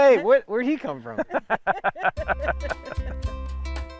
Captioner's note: laugh